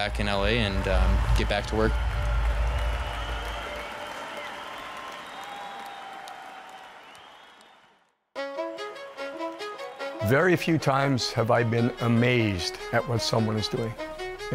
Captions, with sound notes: And get back in L.A. and get back to work. (crowd cheering) (upbeat music) - Very few times have I been amazed at what someone is doing.